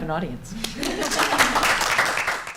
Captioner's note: applause